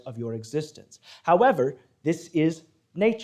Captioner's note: none